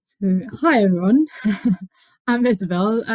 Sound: laughs

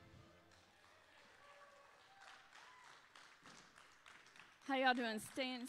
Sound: audience applauding

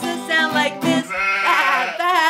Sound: sheep baa-ing

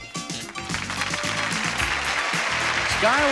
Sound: audience applauding

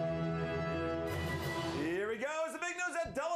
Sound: audience cheering

